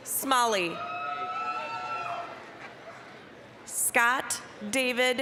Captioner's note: applause, cheering